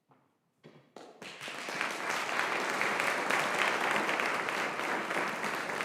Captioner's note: audience applauding